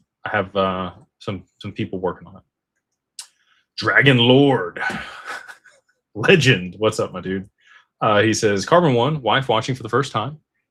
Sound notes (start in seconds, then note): 4.8 laughter